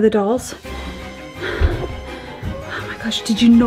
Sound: panting

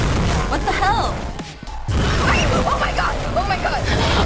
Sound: shrieks

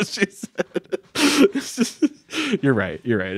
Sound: laughing

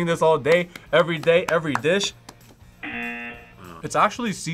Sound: buzzer

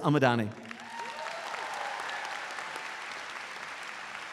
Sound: crowd applauding

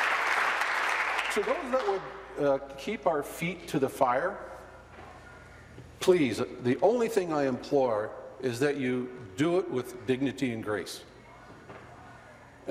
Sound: applause

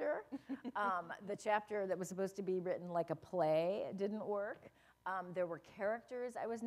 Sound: laughter

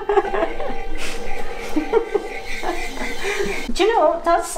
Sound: laughing; wheel squeals

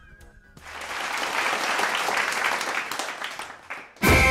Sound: applause; marching music

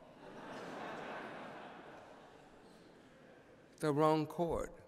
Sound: laughter

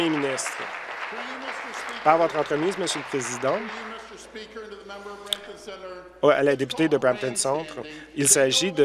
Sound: applause

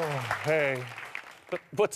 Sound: cheers and applause

